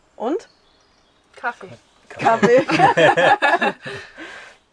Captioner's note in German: Lachen